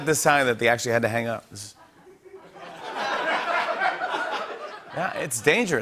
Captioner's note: laughter